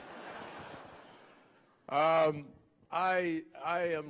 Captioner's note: laughter